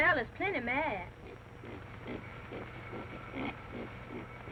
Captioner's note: pig grunts